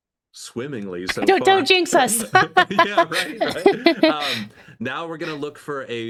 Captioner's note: both laughing